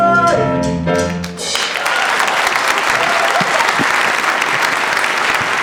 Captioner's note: audience applauds